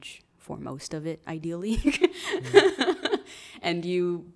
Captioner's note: laughs